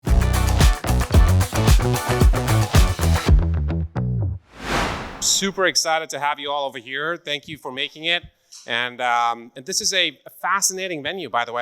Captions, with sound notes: (upbeat electronic music) (interstitial whooshing) - Super excited to have you all over here. Thank you for making it. This is a fascinating venue, by the way.